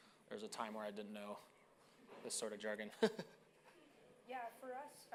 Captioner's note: laughing